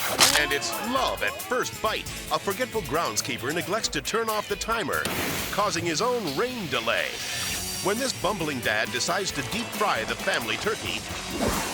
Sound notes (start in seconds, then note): 5.0 water exploding; 11.5 air swoosh